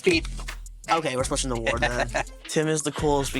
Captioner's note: laughing